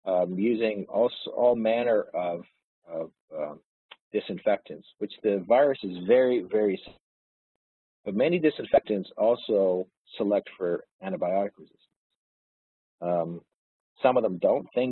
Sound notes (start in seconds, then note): 6.9 audio distorts